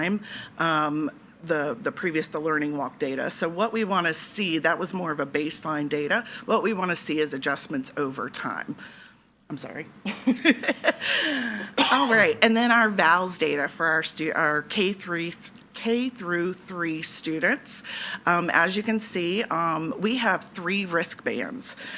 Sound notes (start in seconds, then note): 10.6 laughs; 11.0 attendee coughing